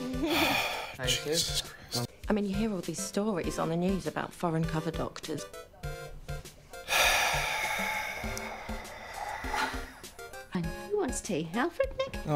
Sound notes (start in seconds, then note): 0.2 sigh; 6.9 sigh